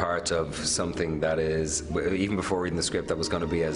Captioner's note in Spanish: hablando en inglés